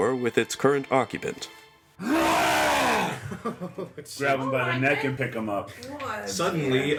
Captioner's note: loud roar